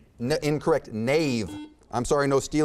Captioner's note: buzzer beeps